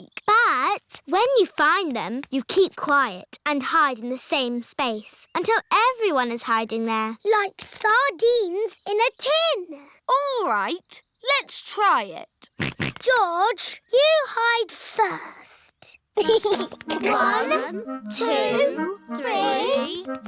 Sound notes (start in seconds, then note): 12.7 snorts; 16.2 chuckles